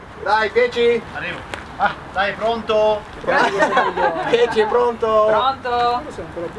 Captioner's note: laughter